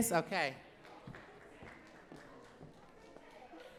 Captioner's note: clapping